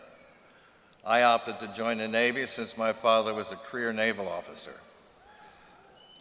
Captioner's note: cheering